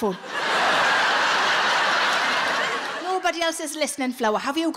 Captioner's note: audience laughing